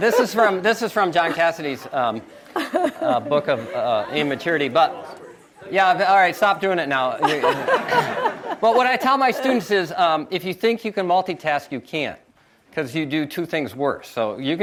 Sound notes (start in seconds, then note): 7.1 audience laughs